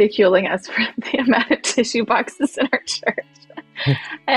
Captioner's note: chuckles